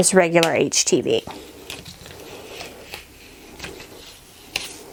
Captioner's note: ripping